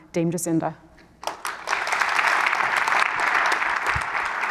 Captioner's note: applause